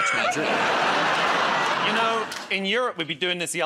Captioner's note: laughter